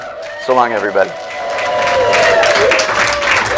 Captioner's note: applause